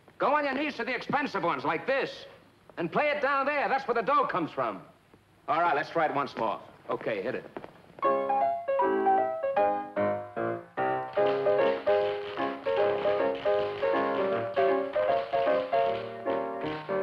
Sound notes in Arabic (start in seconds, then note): 8.1 موسيقى البيانو المبهجة; 11.0 صوت نقر الأحذية